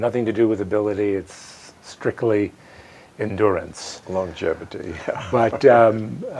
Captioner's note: chuckles